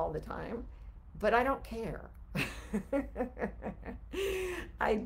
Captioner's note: laughs